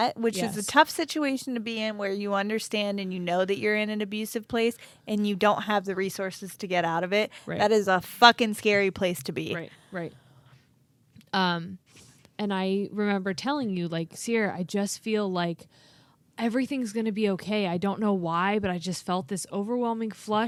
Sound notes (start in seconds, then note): none